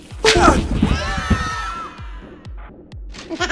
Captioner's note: screaming